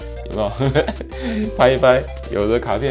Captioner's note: blowing air